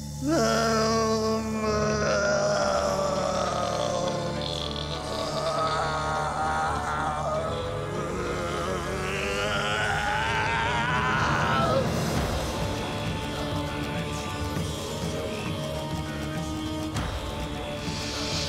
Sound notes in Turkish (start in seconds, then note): 0.2 Bağırma sesi; 12.2 Müzik - Gerilim